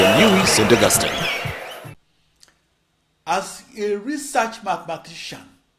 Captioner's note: wild applause and cheering for 22 seconds